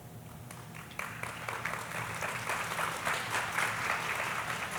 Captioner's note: audience applauding